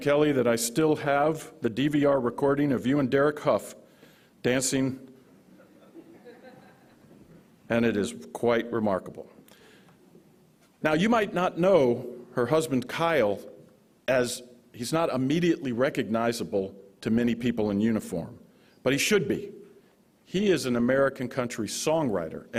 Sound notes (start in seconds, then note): 5.6 audience laughing